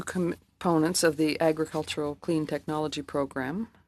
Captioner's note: speaking French